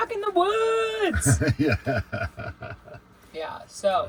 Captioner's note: laughing